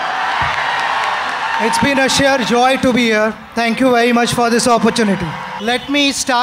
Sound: applause; applause

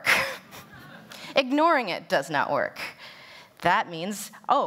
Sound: laughter

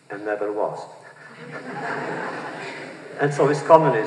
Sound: laughter

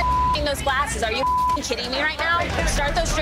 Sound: beeping

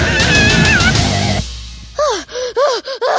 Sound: screaming; breathing

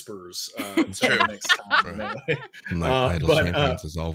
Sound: laughing

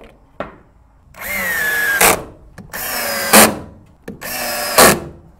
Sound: machine drilling

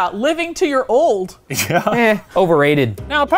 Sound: laughing

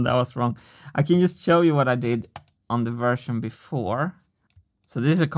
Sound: mouse clicks

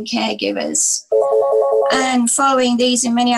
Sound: phone ringing

